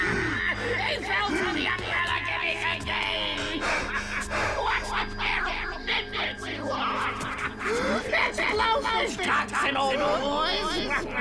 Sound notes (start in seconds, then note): 3.7 distorted voice